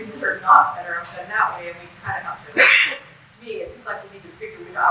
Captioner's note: background sneeze drowns out speaker